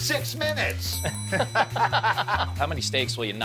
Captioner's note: both laughing